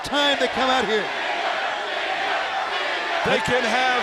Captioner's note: crowd cheering